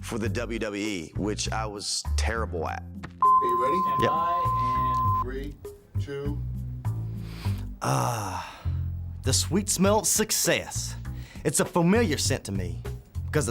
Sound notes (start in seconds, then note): 3.2 dead air beeping; 7.0 AJ inhales